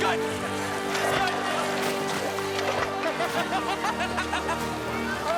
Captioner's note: laughter